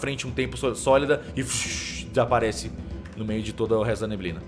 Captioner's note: shhss